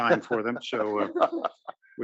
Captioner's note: laugh